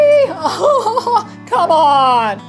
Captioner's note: laughs